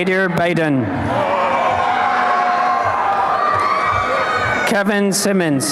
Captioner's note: applause and cheering